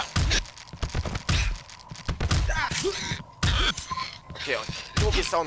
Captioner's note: Glock 17 shots; boxing sounds